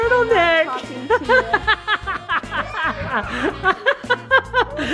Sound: laughs

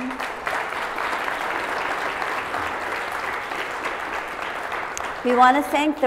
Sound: applause

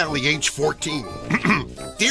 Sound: clears throat

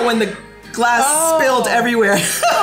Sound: laughs

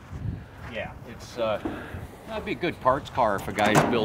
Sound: voiceover

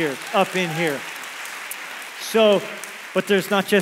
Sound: congregation applauds

